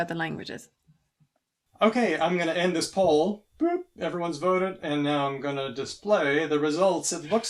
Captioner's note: beeps